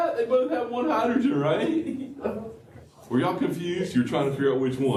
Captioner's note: laughter